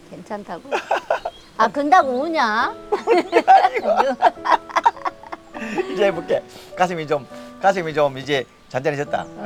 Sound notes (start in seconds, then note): 2.9 both laughing